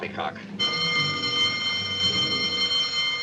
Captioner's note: bell ringing